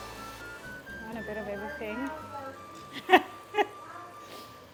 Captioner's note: laughs